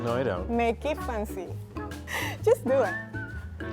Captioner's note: laughing